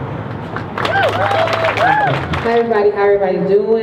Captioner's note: crowd cheers